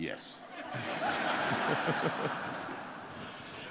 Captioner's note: laughter